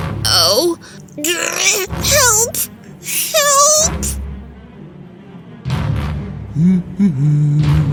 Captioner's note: through gritted teeth